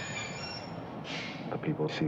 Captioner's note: train screeching to stop